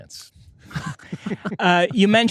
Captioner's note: laughter